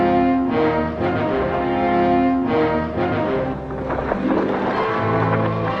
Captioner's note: Red Hawk speaks Spanish